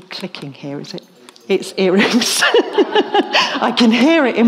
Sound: laughs

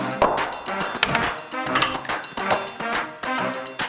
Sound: weights clinking together; chair thud

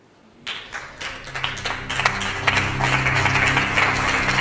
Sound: audience applauding

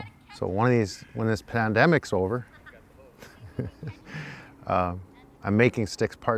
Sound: chuckles

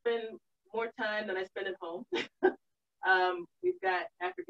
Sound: laughs

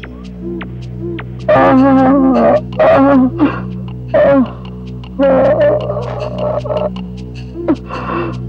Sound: groans

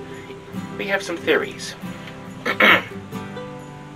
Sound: clears throat

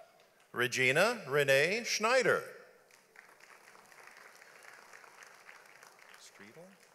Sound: audience applauds

